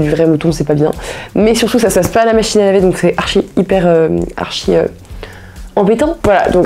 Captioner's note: speaking in French